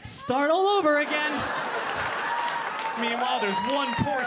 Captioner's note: audience laughing